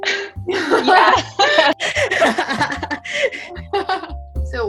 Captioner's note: both laughing